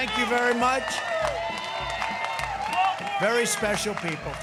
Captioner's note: crowd cheering